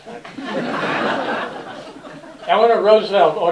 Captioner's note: laughter